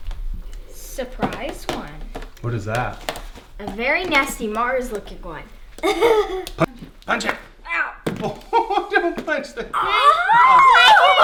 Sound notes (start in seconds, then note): 5.8 laughing